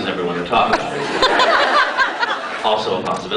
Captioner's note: crowd laughs guiltily